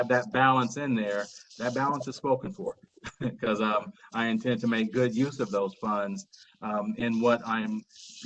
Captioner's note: laughter